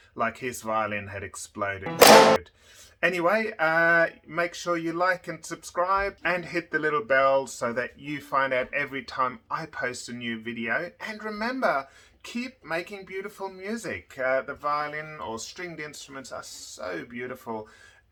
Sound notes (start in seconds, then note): 1.9 violin breaking sound